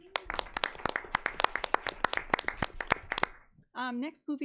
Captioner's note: audience applauding